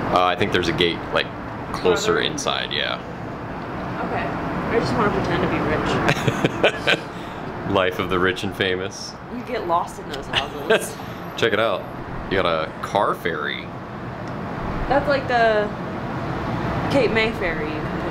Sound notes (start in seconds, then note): 6.0 laughing